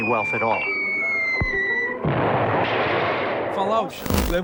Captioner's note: explosion; bomb falling